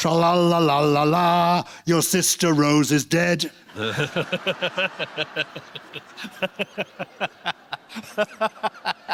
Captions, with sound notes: "Trolalalala, your sister, Rose, is dead." (LAUGHTER)